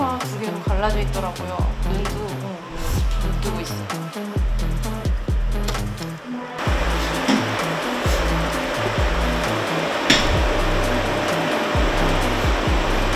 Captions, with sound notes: Its nose is split into two and can't open its eyes (Thud) (Bang)